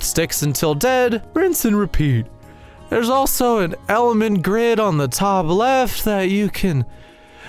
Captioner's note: yawn